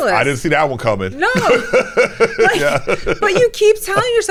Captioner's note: both laughing